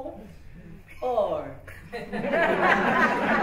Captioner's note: laughter